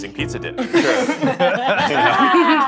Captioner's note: all laughing